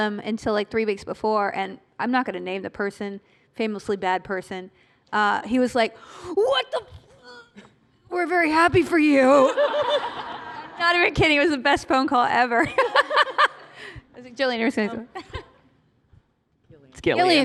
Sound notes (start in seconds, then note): 6.4 yelling; 7.7 straining; 9.3 laughter; 12.6 laughter